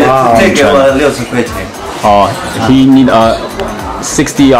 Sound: talks in Chinese

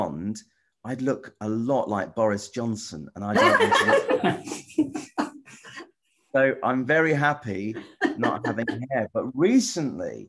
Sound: laughter

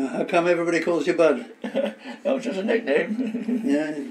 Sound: laughs

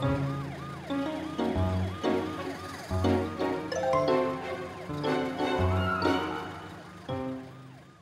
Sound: siren wailing

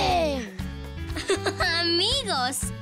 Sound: chuckles

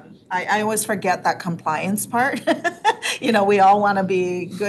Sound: laughs

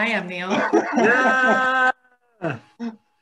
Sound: laughing

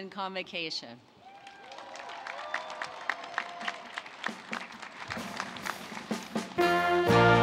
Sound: applause

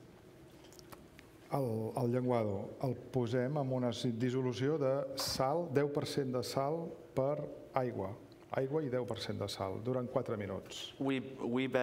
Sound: speaking catalan

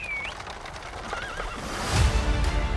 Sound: whistles; horse neighs; dramatic music continues

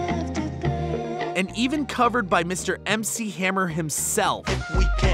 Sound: voice-over

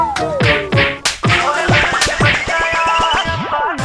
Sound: beating

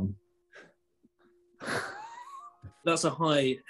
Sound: sniggering

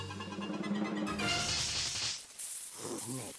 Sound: hissing

